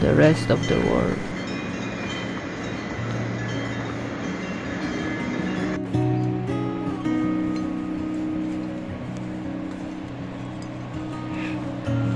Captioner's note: cowbells clanging